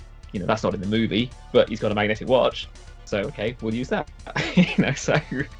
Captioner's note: laughs